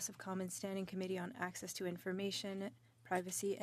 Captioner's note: speaking French